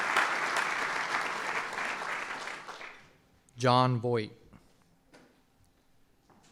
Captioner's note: applause